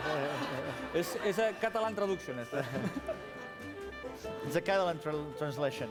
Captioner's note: laughter; non-english speech